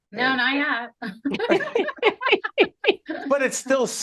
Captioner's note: laughing